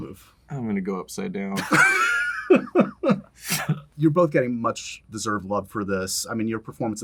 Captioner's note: laughs